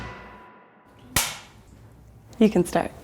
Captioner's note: clapperboard claps